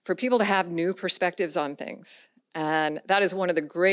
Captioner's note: none